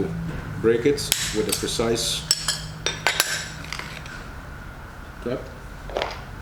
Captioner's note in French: snap